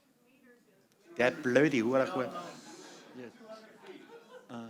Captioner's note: non-english speech